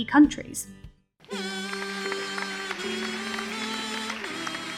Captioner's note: audience applauds